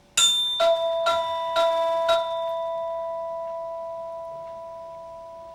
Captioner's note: Vibra-Tone clanking and resonating